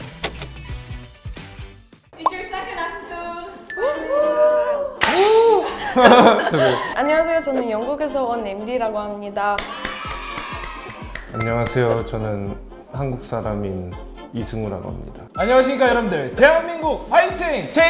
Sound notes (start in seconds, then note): 9.5 clap clap clap clap